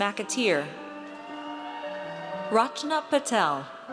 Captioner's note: audience cheers